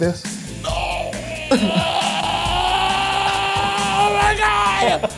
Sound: groaning

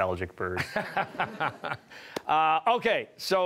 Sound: laughing

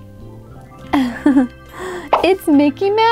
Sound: giggles

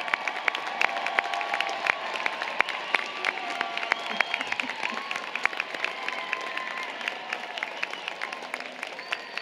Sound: applause, Cheering

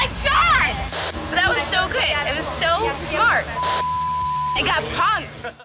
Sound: beep

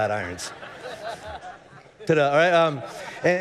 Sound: congregation laughing

